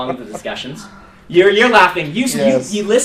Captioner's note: one student is laughing